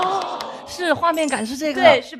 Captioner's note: everyone chimes in